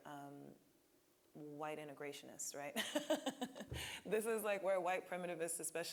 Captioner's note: laughing